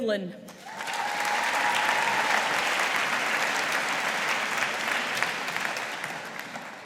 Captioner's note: audience applauding